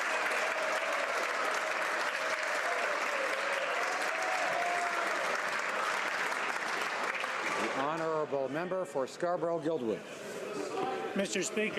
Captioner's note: applause